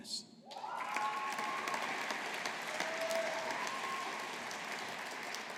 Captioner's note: audience applauding